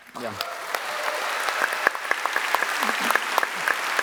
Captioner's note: applause